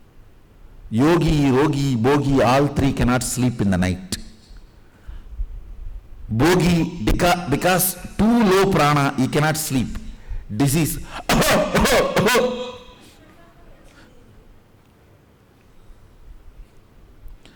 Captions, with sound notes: Yogi, Rogi, Bogi, all three cannot sleep in the night. Bogi, because too low prana, he cannot sleep - disease, (coughing sound).